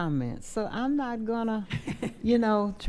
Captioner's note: laughing